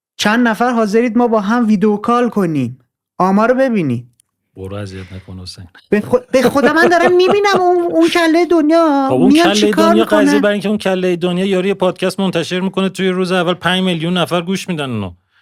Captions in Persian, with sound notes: چند نفر حاضرید ما با هم ویدئوکال کنیم؟ آمارو ببینی - برو اذیت نکن حسین! (خنده) - به خدا من دارم می‌بینم اون کلۀ دنیا میان چه‌کار می‌کنن - خب اون کلۀ دنیا قضیه... برای اینکه اون کلۀ دنیا یارو یه پادکست منتشر می‌کنه توی روز اول پنج میلیون نفر گوش می‌دن اونو